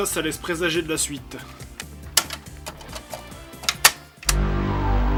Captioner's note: Playstation sounds